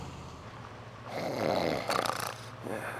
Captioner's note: snoring